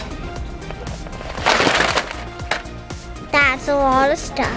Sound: items thudding

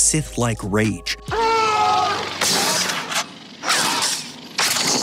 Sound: screaming

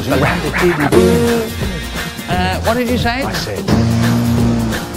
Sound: pffffft

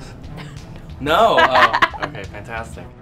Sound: laughing

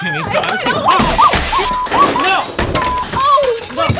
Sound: glass shatters

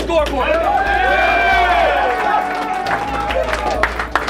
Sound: cheering and clapping

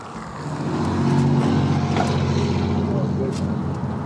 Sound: truck rumbling past

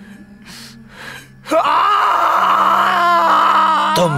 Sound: screaming in pain

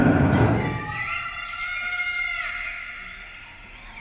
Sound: birds squawking

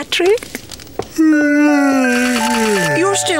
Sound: yawning

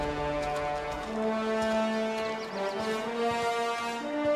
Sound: footsteps

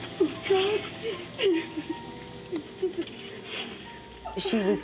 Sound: women crying

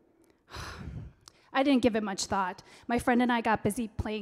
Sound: Kaioshin sighs

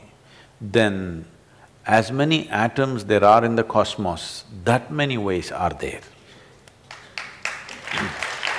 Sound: applause

